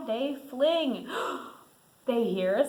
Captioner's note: gasps